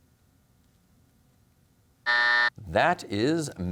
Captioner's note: buzzer sounds